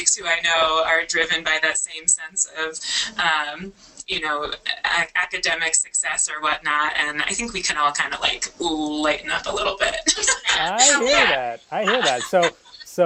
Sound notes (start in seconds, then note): 10.0 laughter